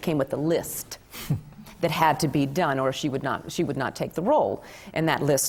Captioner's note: none